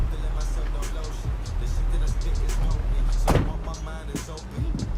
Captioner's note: door thuds